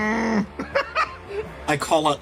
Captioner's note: laugh